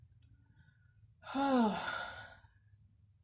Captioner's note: long sigh